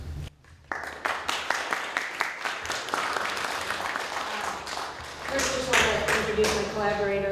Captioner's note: audience Applause